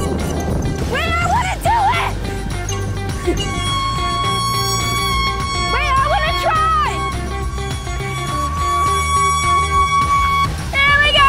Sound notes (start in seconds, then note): 3.2 air horn sounding